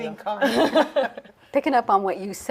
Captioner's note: both laughing